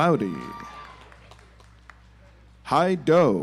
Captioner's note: audience applauds